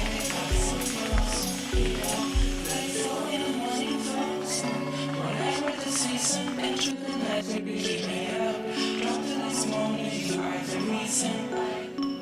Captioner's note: applause